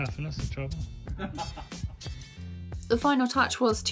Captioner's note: laughs